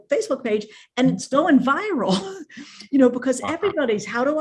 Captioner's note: chuckles